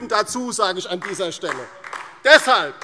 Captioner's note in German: Beifall DIE LINKE